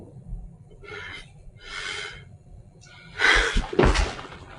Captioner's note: sobbing